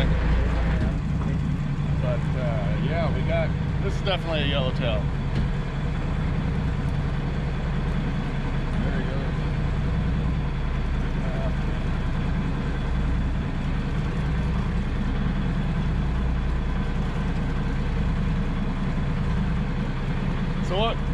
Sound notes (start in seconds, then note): 6.0 boat engine idling